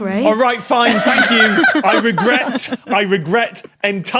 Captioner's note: guests laughing